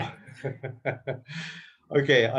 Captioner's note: laughs